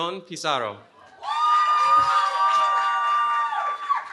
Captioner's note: cheering